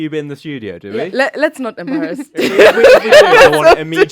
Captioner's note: laughs